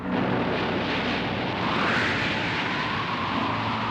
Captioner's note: wind howling